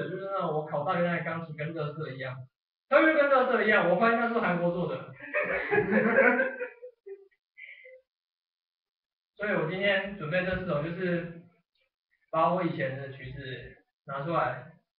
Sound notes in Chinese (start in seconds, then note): 5.1 笑聲